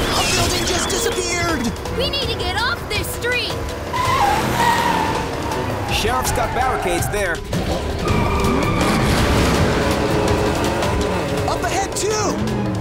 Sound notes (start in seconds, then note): 3.4 tires squealing